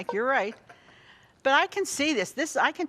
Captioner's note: laughs